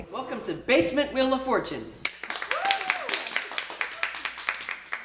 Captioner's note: cheers from the girls